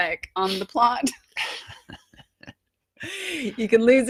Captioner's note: both laughing